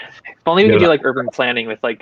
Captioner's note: laughing